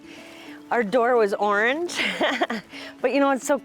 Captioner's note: laughs